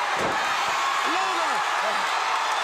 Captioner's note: crowd cheering